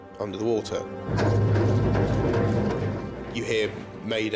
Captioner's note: feet thud